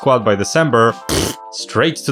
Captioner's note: blows a raspberry